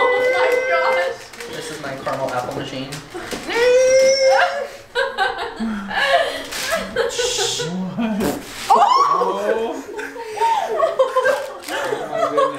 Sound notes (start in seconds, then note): 4.7 laughing; 8.7 screams; 10.1 laughing